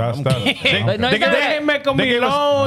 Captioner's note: speaking In Foreign Language